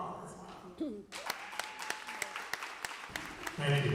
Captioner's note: applause